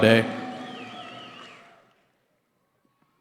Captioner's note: cheering